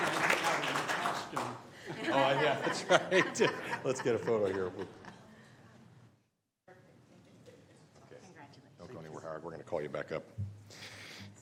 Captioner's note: applause